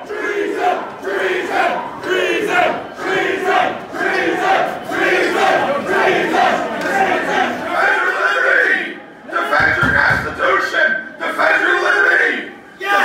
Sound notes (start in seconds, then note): 9.6 banging on door